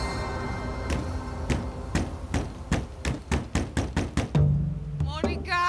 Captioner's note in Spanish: toques en la puerta